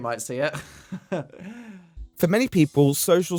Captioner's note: nervous chuckle, followed by a long intake of breath